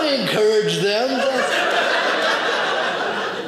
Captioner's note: audience laughing